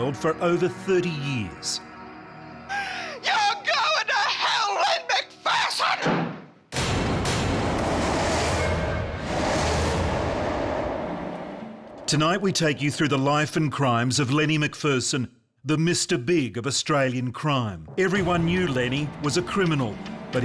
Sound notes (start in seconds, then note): 6.0 door slams; 6.7 ominous music